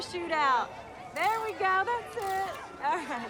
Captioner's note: camera shutter clicks